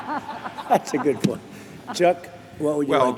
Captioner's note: laughter